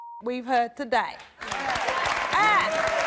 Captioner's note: crowd applauds